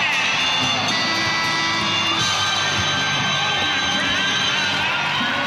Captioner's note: buzzer over applause